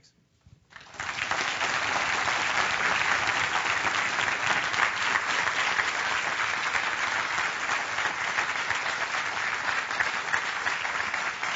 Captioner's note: applause